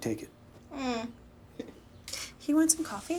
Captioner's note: grunts and chuckles